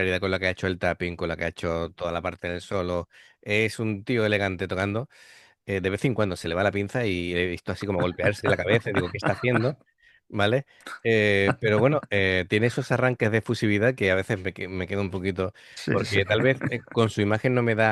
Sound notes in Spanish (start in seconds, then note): 11.1 risas